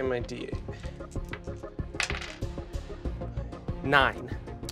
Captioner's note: dice clacking